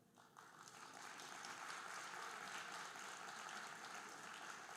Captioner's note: audience applauding